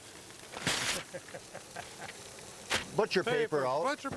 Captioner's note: others laughing